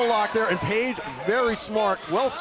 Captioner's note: crowd chatter